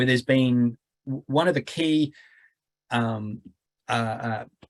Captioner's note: stammering